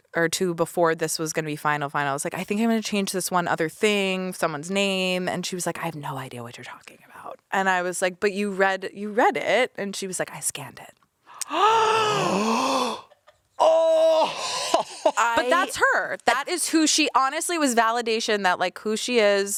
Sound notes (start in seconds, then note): 11.3 gasps; 14.2 laughs